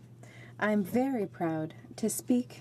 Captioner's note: speaking in french